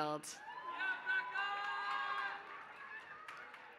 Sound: applause

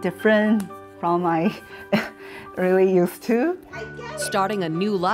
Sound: chuckling

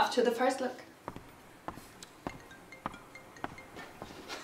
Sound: apple ringtone

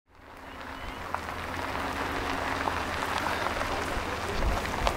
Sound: tires crunching against dirt

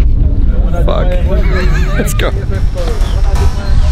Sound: laughs; upbeat music

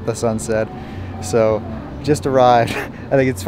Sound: chuckles

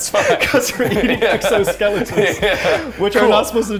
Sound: laughter

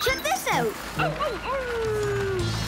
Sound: howling

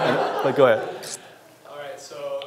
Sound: audience laughs

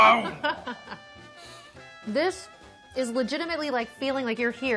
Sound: laughing

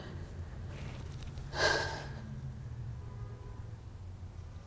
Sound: sighing

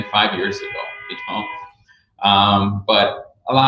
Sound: car horn drowns out speaker

